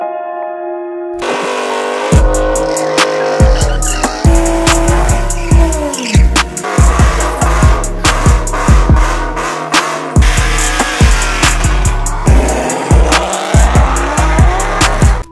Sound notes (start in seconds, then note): 1.4 engine revving